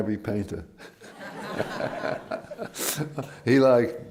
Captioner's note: laughter